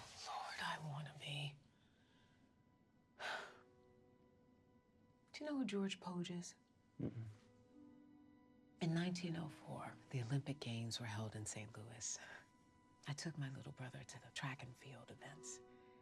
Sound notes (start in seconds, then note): 3.2 sighs